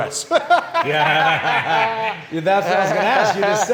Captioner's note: everybody laughing